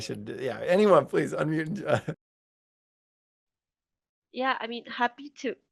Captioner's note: laughs